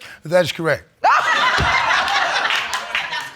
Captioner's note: audience laughing